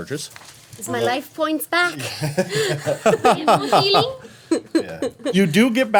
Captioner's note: everyone laughing